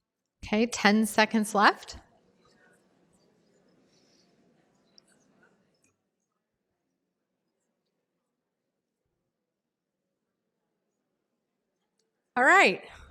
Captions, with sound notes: Okay 10 seconds left. [ pause ] All right.